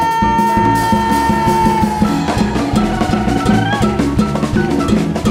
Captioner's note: audience cheering